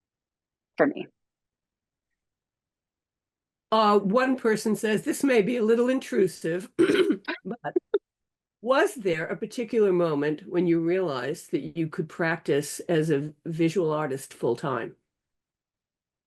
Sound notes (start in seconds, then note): 6.8 chuckling